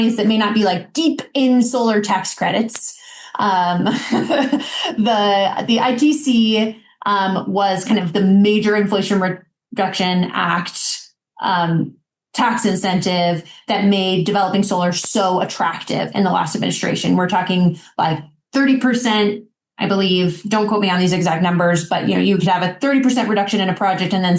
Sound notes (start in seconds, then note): 3.7 laughing